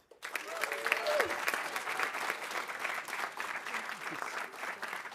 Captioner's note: audience applauding